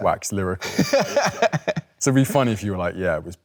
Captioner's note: Leo laughs